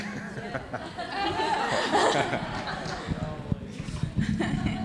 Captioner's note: audience laughing